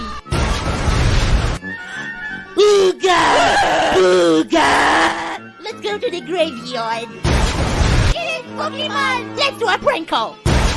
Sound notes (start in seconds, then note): 2.6 screaming like a little bitch